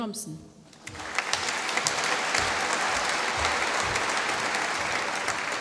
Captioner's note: applause